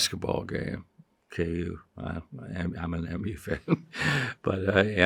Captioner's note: chuckles